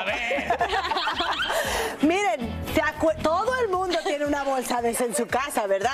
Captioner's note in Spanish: risas